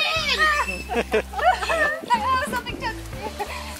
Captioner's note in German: Lachen; Gelächter